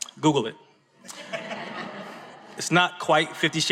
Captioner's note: audience laughs